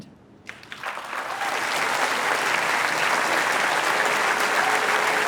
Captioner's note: applause